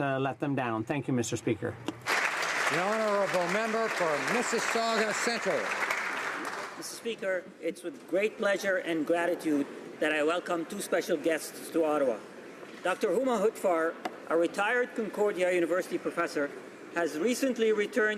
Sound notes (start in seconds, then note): 6.1 applause